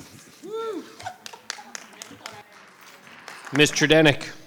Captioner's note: audience applauding